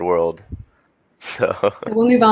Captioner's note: laughter